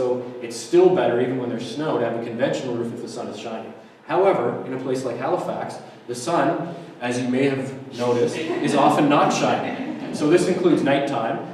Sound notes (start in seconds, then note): 8.1 audience laughter